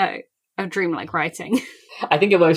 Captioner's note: laughs